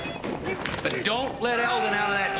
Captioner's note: Eldon grunts and screams